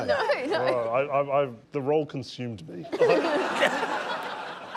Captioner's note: laughter